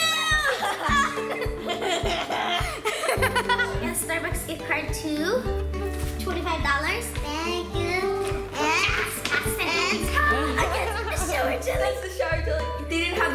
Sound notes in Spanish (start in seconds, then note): 0.4 risa